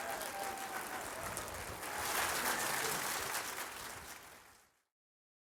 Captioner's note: applause